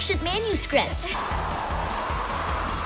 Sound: wind blowing

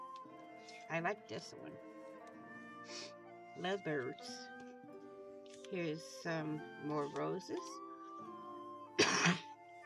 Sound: cough

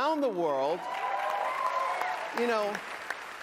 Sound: cheering

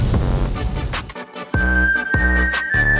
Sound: whistle

